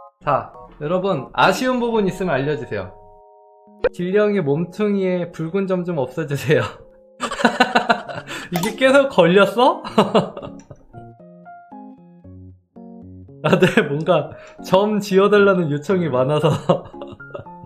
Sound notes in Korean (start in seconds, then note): 7.2 웃음